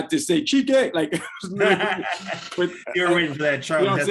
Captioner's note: laughing